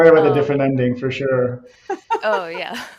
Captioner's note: laughs